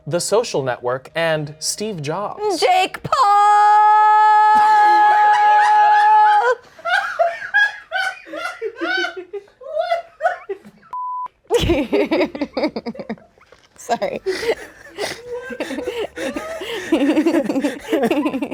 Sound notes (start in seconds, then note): 4.6 everyone laughs; 10.9 beep; 12.4 everyone laughs